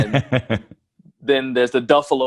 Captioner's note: laughs